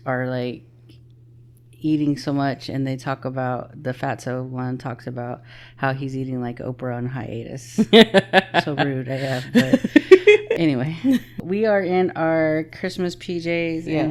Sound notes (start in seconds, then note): 7.8 laughing